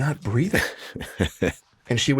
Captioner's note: chuckles